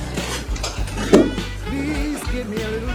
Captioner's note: thud!